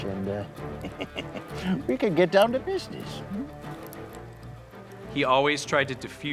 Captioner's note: laughs